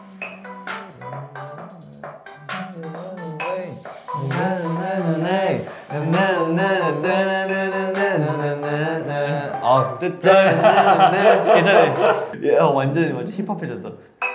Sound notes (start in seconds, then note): 0.3 humming; 6.2 they hum the melody together